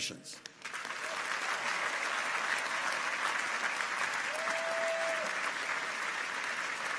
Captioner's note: audience applauds; people cheer